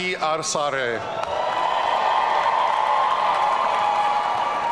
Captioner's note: audience cheering